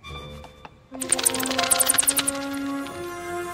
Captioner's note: bats chitter